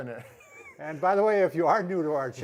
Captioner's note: laughs